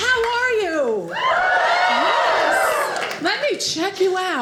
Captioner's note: audience cheers